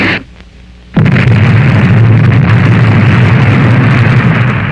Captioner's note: explosion booming